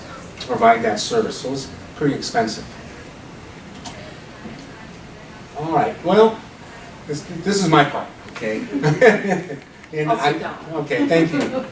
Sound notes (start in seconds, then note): 8.5 laughing